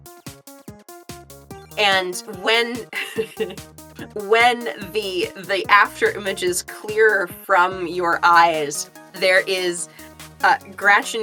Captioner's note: chuckles